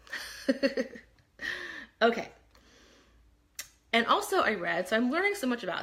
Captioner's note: laughs